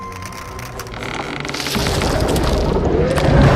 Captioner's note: cracking of wood